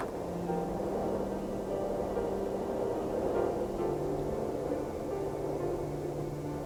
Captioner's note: wind howling; gentle music continues